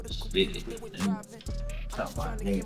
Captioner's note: Gator muttering